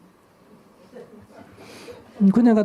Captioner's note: audience Laughter